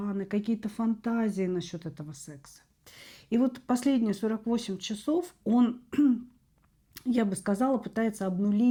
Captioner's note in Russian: откашливается